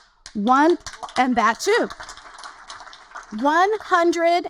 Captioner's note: audience applaud